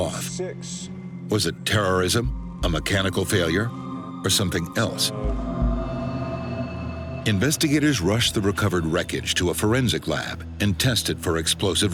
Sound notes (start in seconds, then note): 3.0 flames crackling